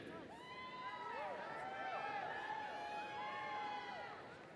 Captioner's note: audience cheering